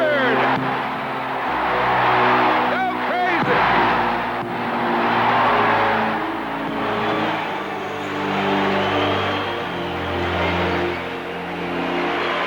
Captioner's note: crowd cheering